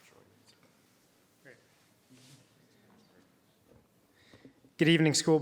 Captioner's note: people chattering